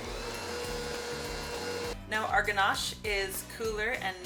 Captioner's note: mixer whirring